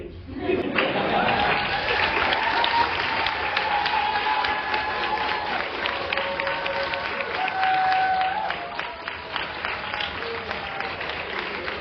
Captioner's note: applause